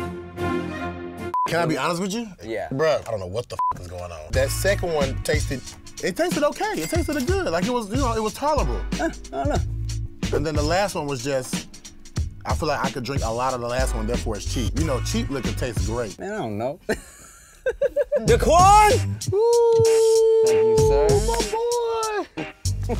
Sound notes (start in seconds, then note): 1.3 beep; 16.8 laughing